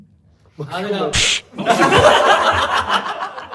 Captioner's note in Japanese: 笑い声